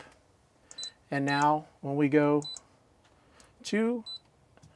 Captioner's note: beeping; beeping; beeping